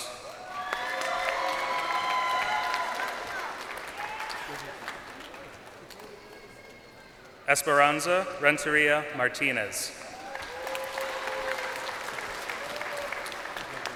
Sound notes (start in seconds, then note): 3.9 crowd cheering